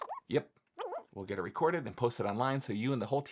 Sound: speaking speedily

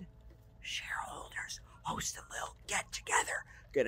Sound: whispering

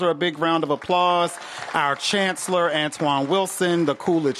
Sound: applause

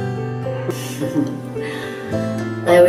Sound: Dr. Robertson chuckles

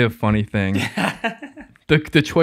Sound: laughs

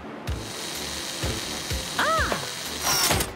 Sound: whirring

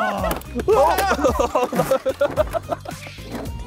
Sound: men laughing

